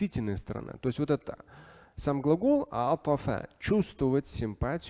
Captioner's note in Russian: говорит на арабском